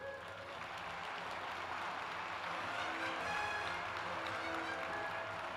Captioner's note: applause